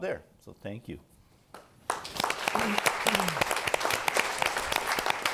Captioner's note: applause